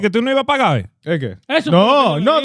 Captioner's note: speaking In Foreign Language